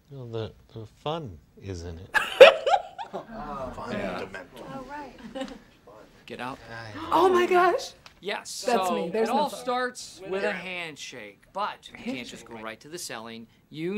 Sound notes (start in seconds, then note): 2.2 laughs; 3.2 all murmuring